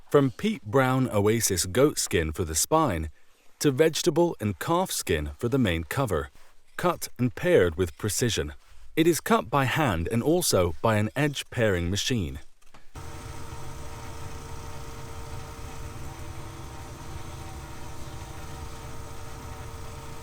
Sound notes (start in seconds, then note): 12.9 machine whirring